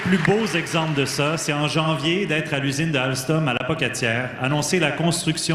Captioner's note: applause